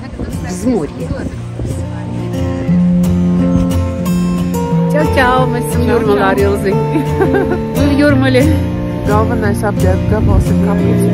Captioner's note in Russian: Разговор по латышски